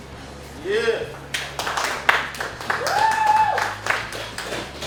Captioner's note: cheering & Clapping